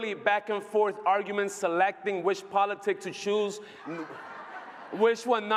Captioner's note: laughter